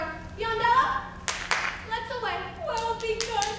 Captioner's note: claps; clapping